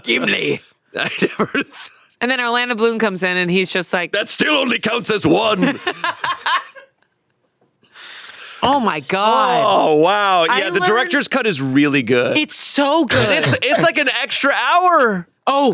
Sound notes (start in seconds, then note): 1.0 laughs; 5.6 laughs